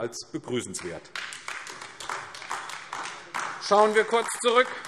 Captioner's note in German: Beifall AfD